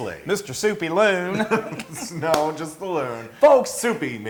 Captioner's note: laugh